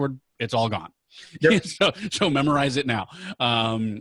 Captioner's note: laughing